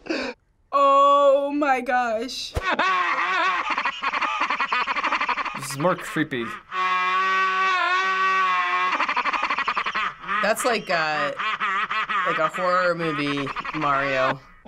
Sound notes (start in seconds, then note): 2.4 distorted laughter